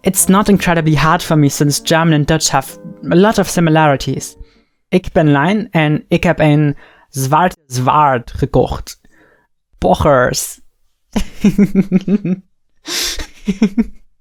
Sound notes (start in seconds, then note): 5.0 speaking Dutch; 11.2 chuckles